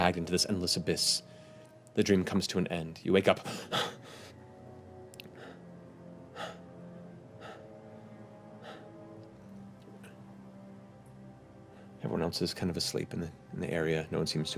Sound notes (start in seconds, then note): 7.4 panting